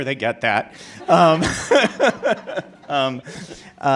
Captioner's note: laughter